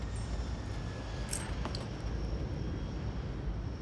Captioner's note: necklace clatters